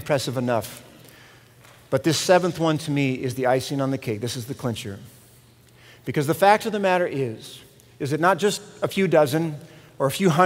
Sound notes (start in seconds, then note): none